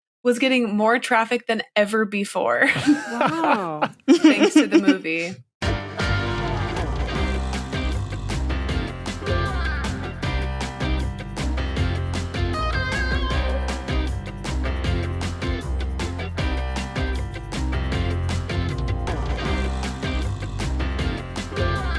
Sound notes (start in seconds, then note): 2.6 snickers; 2.7 laughs